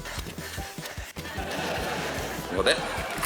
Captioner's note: laughter